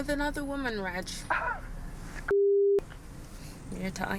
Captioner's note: scoffs